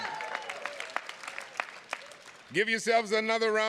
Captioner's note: attendees clapping